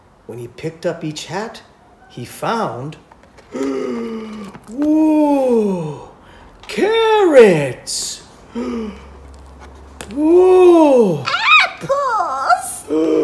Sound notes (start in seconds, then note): 3.5 gasp